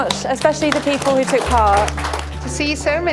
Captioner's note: applause